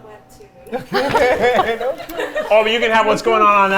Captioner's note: all laughing